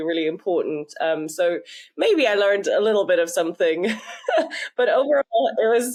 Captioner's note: laughs